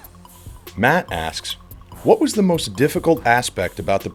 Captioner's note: voiceover